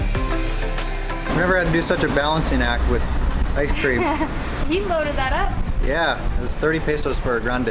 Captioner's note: laughter